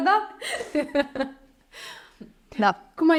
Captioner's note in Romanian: Fetele râd